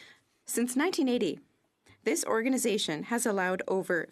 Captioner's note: speaking French